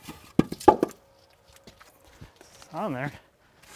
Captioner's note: wood falling